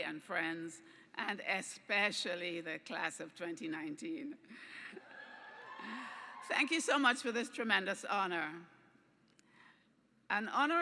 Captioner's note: cheers